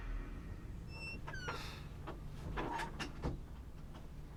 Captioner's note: door opening; door creaking